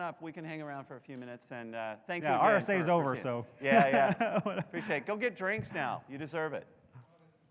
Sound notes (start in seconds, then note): 3.6 laughing